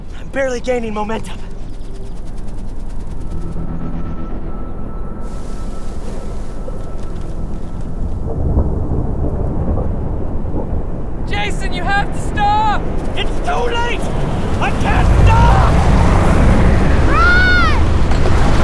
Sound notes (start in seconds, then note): 2.3 intense music; 4.5 wind howling